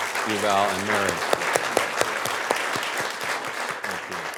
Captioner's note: audience clapping